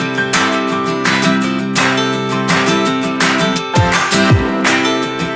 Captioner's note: applause